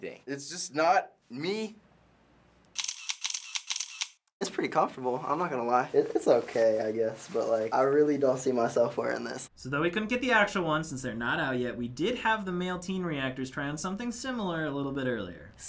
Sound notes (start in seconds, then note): 2.7 camera shutter clicking